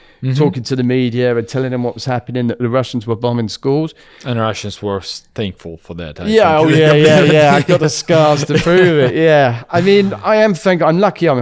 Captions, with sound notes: Mm-hmm talking to the media and telling them what was happening, that the Russians were bombing schools. And Russians were thankful for that, I think. [laughs] Yeah. Oh, yeah, yeah, yeah. I've got the scars to prove it. Yeah. I mean, I am thank- I'm lucky